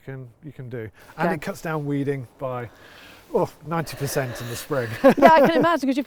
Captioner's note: laughs